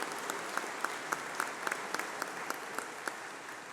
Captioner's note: applause